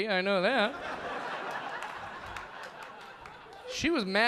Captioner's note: audience laughing